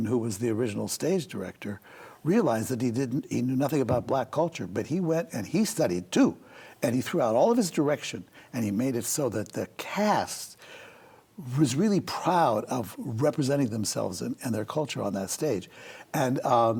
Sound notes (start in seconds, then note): none